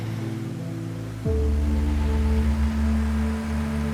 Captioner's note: rushing water